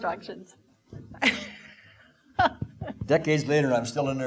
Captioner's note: laughing